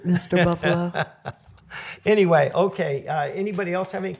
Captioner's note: laughter